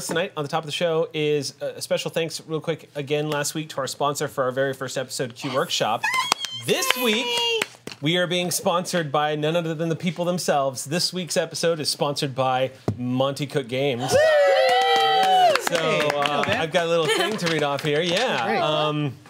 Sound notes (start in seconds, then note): 13.9 group cheers